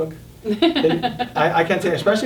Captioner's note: all laughing